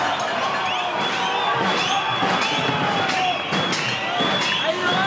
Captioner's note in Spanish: Gritos y silbidos al unísono